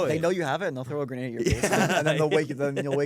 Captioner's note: laughs